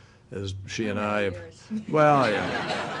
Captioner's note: laughter